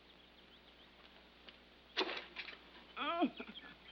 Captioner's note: groans